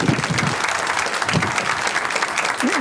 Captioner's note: applause